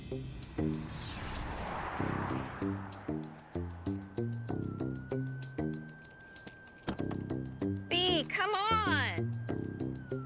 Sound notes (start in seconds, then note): 0.2 sinister music; 3.8 sirens blaring